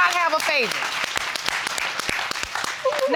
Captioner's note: applauding